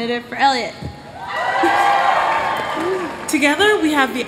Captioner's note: cheers